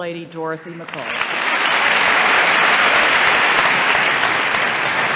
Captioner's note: applause